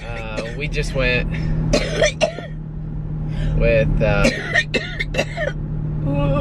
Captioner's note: coughing